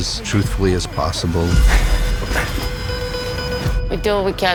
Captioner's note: heart monitor beeping rapidly